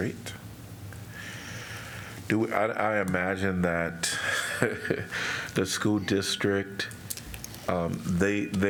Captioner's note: laughter